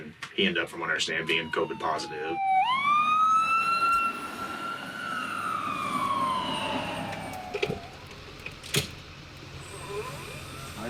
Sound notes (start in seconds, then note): 5.3 siren wails